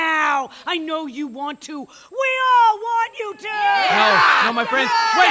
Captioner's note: Cheers of affirmation from the crowd/Merry Men